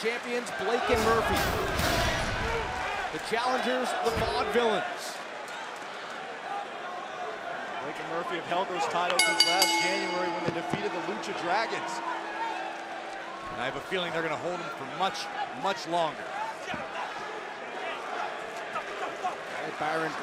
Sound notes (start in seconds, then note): 9.1 bell ringing